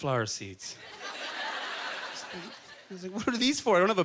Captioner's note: audience chuckling